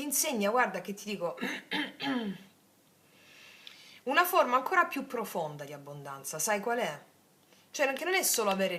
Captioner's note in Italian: schiarire la voce